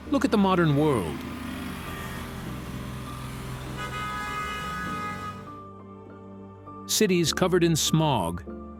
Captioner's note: traffic bustling